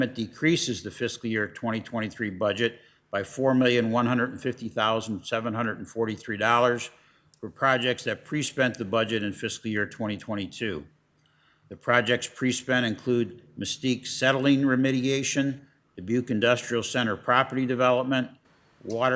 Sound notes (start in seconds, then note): none